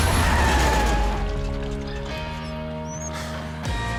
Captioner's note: vehicle skidding